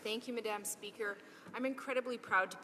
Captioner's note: speaking in french